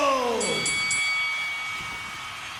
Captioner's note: bell dings